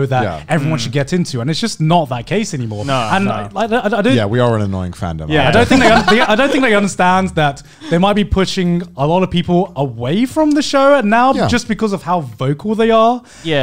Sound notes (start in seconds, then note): 3.4 inhales